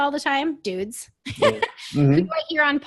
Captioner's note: laughs